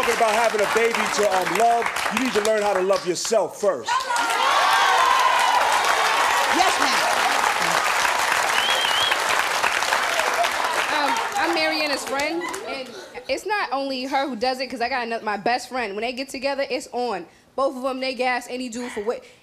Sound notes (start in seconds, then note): 3.8 audience clapping